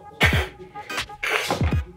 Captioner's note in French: Bruit de raton qui feule